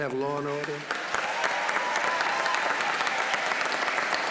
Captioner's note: applause